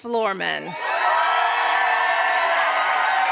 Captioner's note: cheers, applause